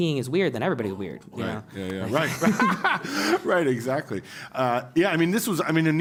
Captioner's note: laugh